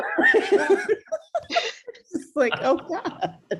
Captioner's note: panelists laugh